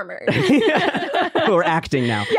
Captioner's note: all laughing